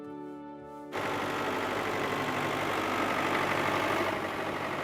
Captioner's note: tractor rumbling